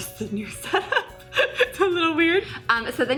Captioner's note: laughs